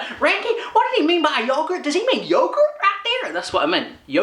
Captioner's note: said in American accent